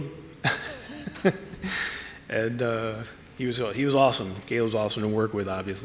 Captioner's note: laughing